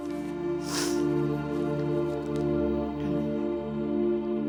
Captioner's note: soft music; sniffles